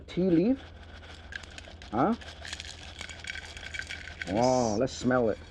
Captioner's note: tealeaves pouring